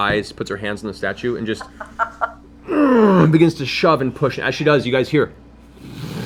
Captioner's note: grunts; stone scraping noise